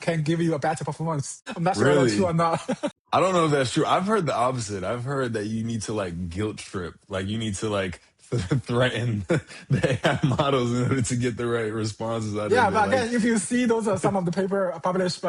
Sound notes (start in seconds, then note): 2.5 chuckles; 8.3 laughs